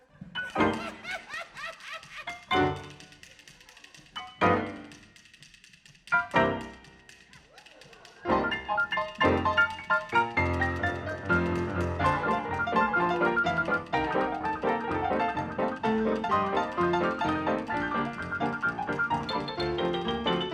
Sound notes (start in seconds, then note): 0.0 laughing; 0.0 audience laughing; 7.5 audience laughing